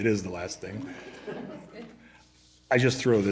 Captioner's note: laughter